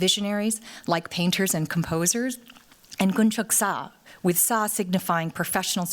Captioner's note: korean